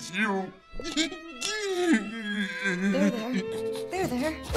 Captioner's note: man continues to cry while consoles him